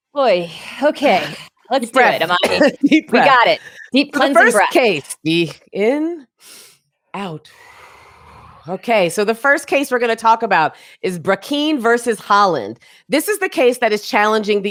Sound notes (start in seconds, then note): 7.5 exhales; 7.6 inhales